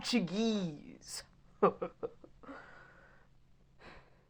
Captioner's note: chuckles heartily